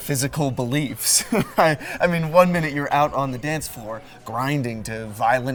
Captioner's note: chuckle